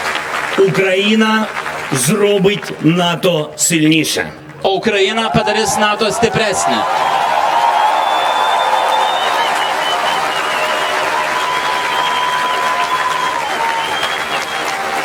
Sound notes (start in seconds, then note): 4.6 Lithuanian